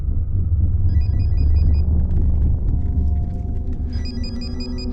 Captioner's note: ringing continues